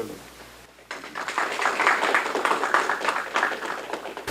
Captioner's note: applause